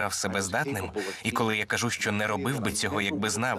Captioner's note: chuckles; gasps